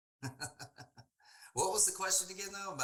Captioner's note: chuckling